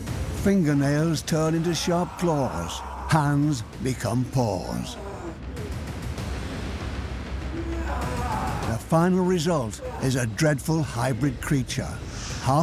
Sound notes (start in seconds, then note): 7.4 groaning